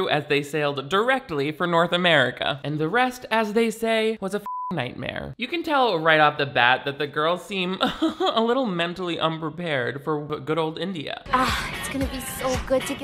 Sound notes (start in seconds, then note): 4.4 beep; 7.8 laughs sarcastically